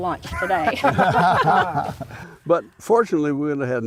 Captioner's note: laughter